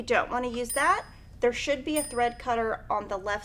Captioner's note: bell dings